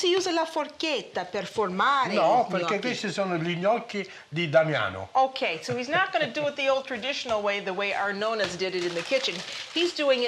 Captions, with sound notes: and he [Speaking Italian] No. [Speaking Italian] Okay. So he's not going to do it the old traditional way, the way our nona's did it in the kitchen.